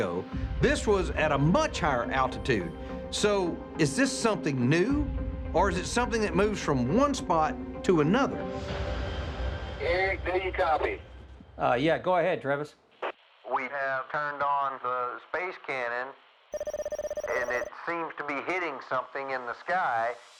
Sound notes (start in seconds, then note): 9.5 over walkie